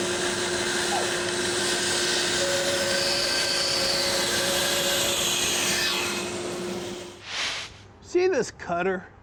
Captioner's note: saw whirring